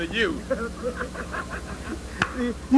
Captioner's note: laughter